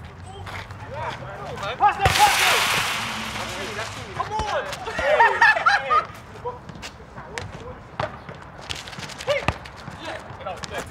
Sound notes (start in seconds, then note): 2.0 ball hits fence; 5.4 laughs